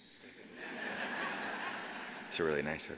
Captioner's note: audience laughs